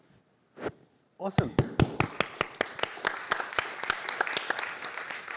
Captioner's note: applause